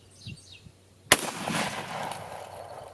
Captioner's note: gun fires